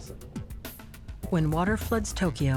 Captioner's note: speaking Japanese